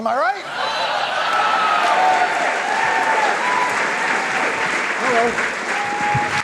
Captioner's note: audience laughing and cheering